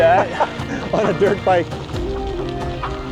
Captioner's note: laughs